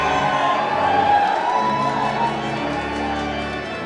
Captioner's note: cheering